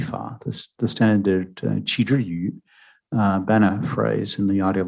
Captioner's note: speaking mandarin